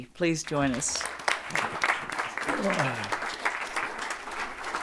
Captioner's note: audience applauding